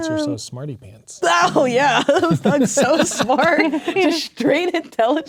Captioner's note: laughing